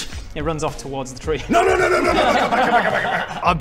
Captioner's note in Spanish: risas